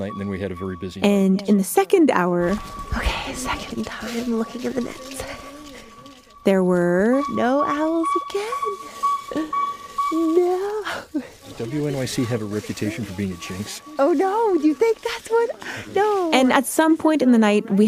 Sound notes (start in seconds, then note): 3.0 whispers; 9.2 laughs